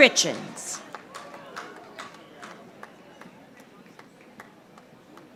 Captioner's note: audience applauding